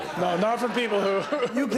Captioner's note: laughter